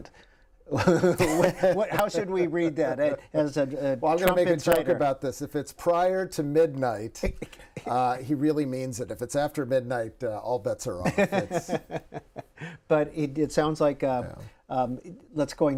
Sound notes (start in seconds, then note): 7.6 laughter